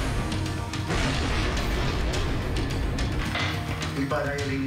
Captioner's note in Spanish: Estruendo